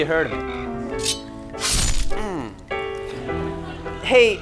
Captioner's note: slicing noise